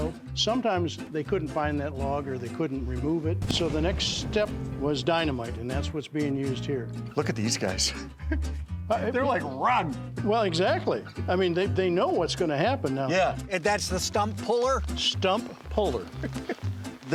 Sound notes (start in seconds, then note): 7.9 chuckles